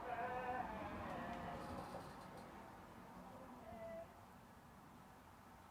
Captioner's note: my dog yowling in agreement in the background